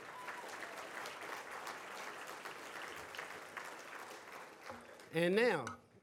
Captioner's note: audience applauds